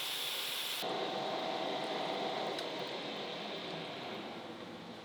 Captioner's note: drill whirring